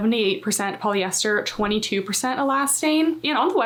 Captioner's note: text whooshing